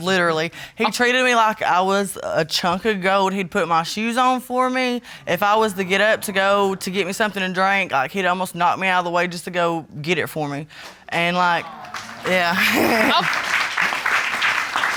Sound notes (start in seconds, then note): 11.6 audience clapping; 12.5 chuckles